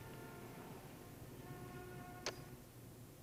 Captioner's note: click